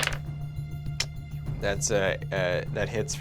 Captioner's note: rolls dice